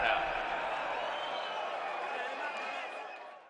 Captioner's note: crowd cheering